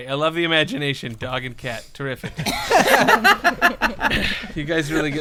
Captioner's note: laughter